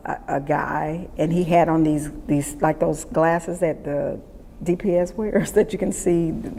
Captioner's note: laughs